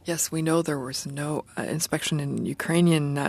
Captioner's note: speaking French